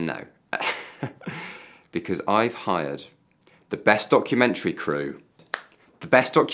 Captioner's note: chuckles; snaps